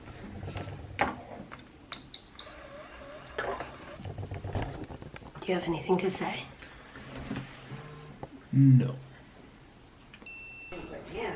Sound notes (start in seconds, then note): 1.9 beeping; 9.9 twinkling sound